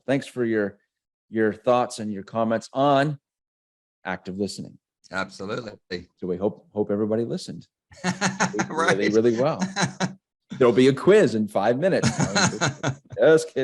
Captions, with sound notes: Thanks for your thoughts and your comments on active listening. - Absolutely. - So we hope everybody listened- (laughing) Really, really well. There'll be a quiz in five minutes. Just kidding, just kidding.